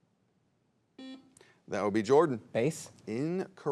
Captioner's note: buzzer beeps